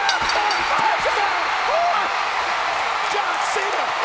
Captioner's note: bell rings